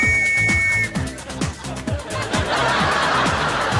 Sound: whistle toots

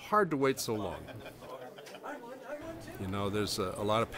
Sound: people laughing

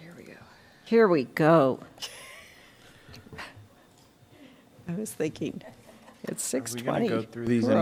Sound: laughter

